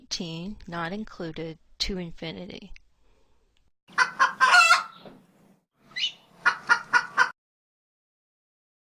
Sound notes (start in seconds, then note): 4.0 rooster crows